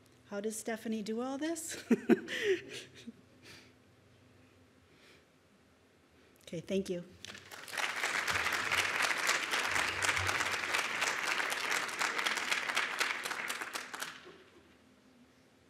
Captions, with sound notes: How does Stefani do all this (laughs)? Okay, thank you. (audience applauds)